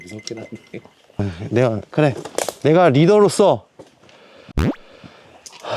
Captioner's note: phew